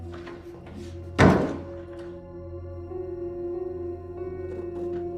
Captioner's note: dramatic music; door slamming